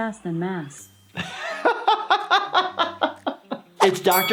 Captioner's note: laughing